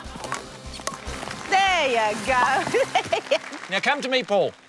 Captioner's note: laughs